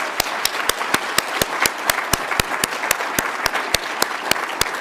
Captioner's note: audience applauds